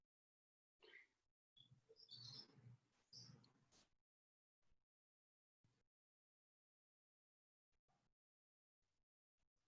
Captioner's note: silence